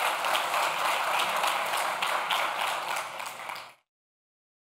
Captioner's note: audience clapping